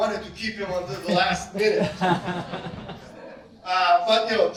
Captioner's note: laughter